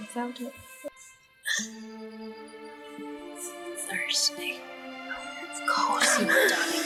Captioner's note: Sounds of breathing as Mia wakes